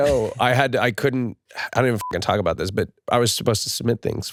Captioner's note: beep